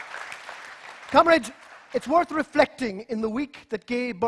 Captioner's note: applause